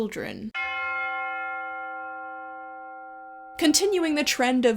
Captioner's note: bell chime